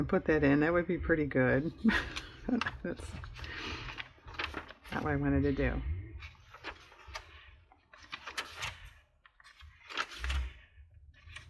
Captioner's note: laughs